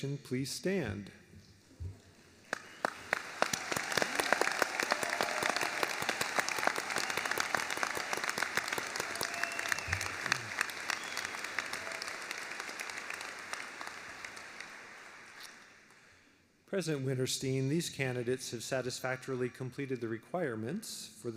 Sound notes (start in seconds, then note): 6.7 applause